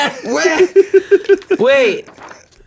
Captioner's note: everyone laughs